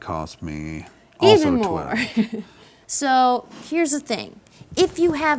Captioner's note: chuckles